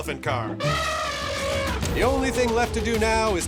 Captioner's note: elephant trumpets